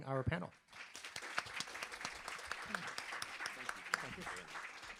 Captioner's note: applause